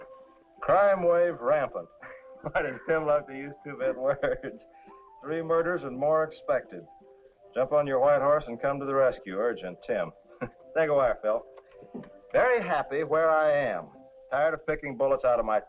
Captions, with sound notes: "Crime wave rampant." (laughs) Boy, does Tim love to use two-bit words. "Three murders and more expected. "Jump onto your white horse and come to the rescue. "Urgent. Tim." (chuckles) Take a wire, Phyll. Very happy where I am. Tired of picking bullets out of my teeth.